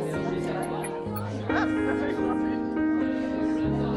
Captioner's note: laughter, chatter continue